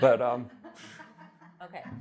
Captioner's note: woman laughing